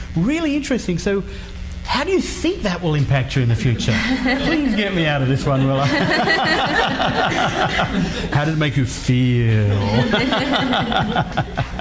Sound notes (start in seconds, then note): 6.0 laughing; 9.7 laughs